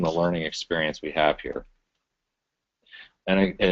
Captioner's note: pause